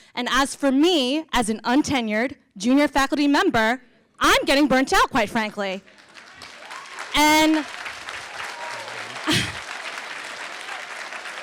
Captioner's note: applause